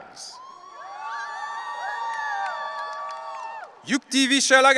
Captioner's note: audience cheering